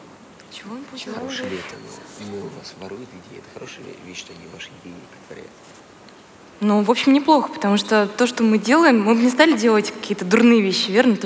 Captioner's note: foreign Language